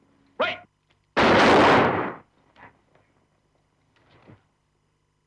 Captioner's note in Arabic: صوت طلقات نارية